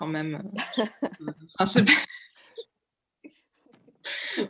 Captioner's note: laughs